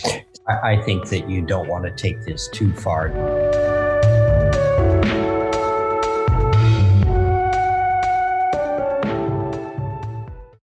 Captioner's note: laughs